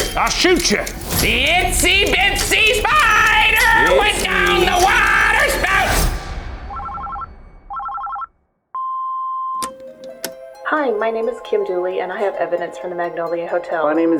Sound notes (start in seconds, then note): 7.7 phone rings; 9.7 eerie music